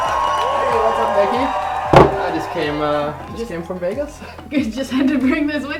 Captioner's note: slams trophy on table